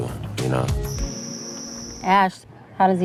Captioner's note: crickets chirp